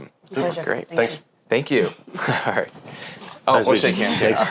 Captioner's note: laughs; all laughing